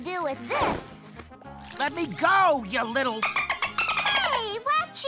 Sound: porpoise sounds

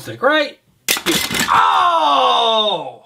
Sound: pieces crash; man yells

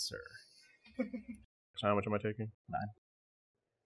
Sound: chuckles

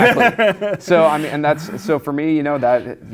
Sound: laughs

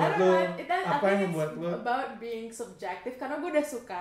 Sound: laughter

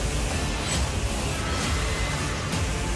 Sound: ghastly screech

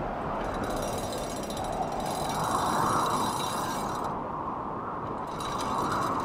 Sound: wind blowing; chains clinking

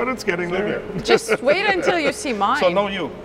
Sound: laughing

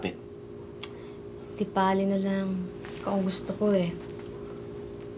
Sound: clicks tongue

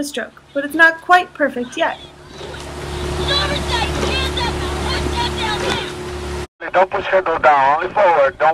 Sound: coaches yelling

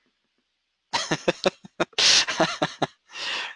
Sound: laughing

